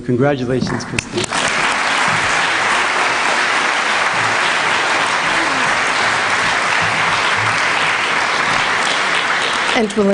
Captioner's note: applause